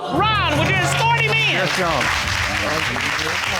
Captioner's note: audience exclaims; indistinct chatter